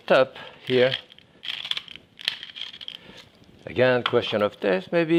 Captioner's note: grinder grinding